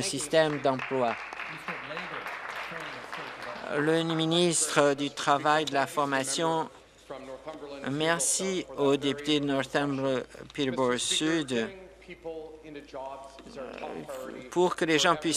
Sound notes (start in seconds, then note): 3.7 applause